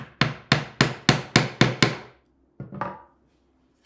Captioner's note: chisel banging